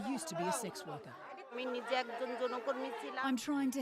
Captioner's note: non-english speech